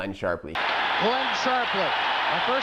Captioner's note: crowd cheers